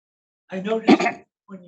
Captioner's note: clears throat